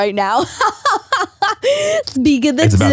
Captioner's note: laughs